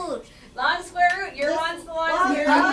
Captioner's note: voiceover